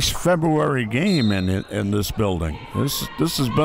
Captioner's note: referee blows whistle